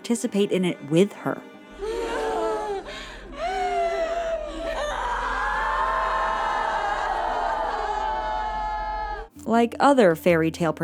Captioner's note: sobbing